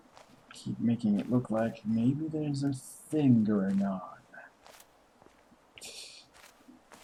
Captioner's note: laughs softly